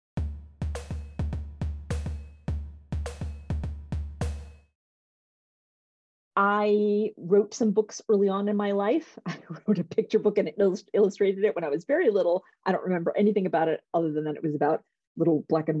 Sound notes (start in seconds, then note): 0.2 percussive music; 8.3 laughter